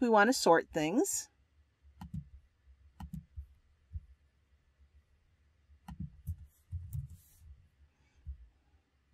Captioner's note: pause